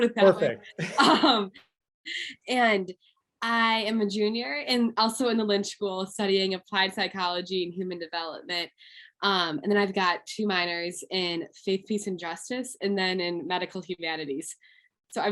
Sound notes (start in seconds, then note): 0.3 laughing